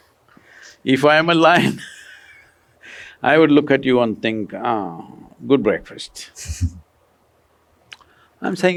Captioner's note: laughs